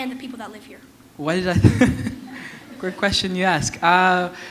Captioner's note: chuckle